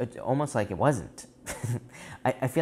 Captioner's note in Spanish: Risas